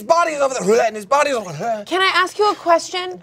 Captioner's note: gags